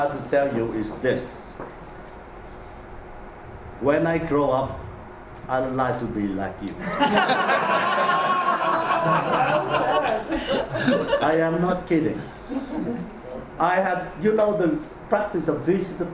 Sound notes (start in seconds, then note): 6.8 audience laughs